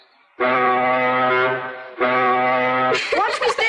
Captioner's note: horn